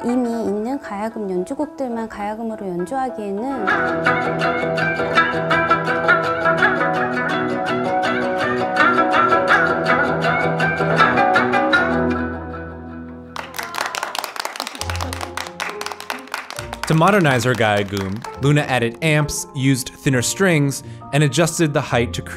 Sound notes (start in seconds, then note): 3.6 energetic music; 13.3 applause